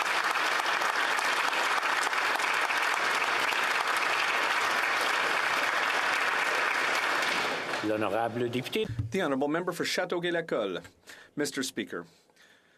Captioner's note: applause